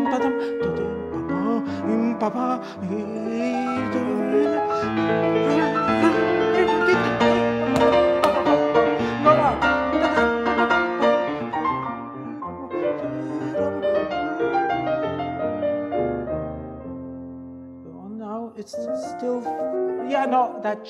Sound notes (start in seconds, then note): 0.1 makes interpretive musical sounds; 8.2 claps